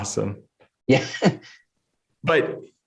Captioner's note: laughs